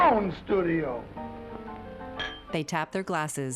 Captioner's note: glasses clinking